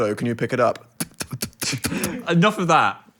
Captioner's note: Dan spitting